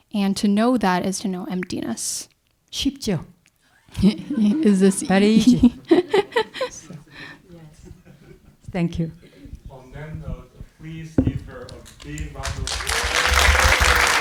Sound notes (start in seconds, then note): 3.4 speaking in Korean; 6.5 audience laughing; 7.8 speaking in Korean